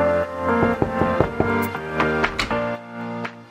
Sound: knocking

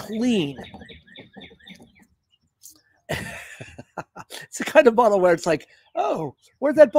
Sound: laughter

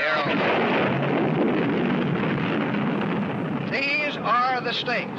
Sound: explosion

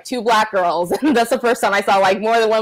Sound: laughs

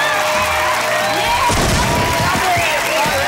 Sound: applauding

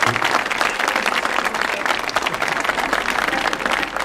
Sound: audience applauding

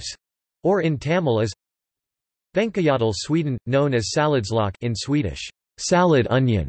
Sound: in Swedish

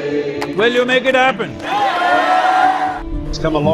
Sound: cheering

